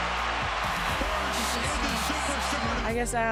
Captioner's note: cheers and applause